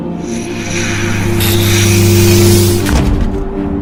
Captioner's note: doors whirring